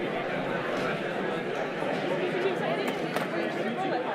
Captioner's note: audience chattering